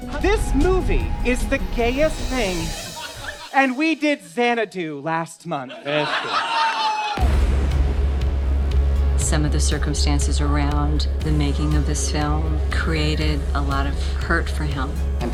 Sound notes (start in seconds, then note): 5.6 audience laughing; 7.8 intense music